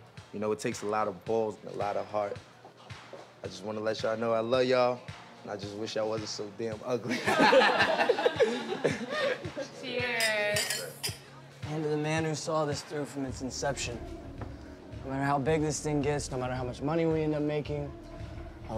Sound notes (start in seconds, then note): 7.0 all laughing